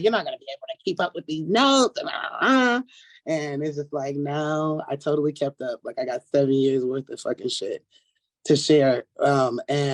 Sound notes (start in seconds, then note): 2.4 grumbling